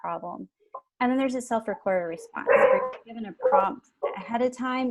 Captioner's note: dogs barking